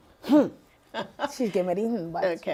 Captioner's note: laughing